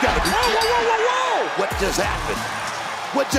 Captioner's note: bell rings